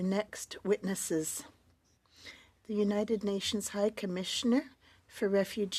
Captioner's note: speaking French